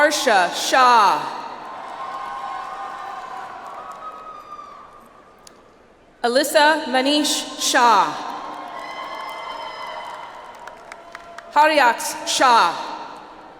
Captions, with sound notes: Aarsha Shah. (audience applauds) Alyssa Manish Shah. (audience applauds) Haryaksh Shah.